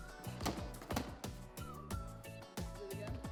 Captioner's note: ball bounces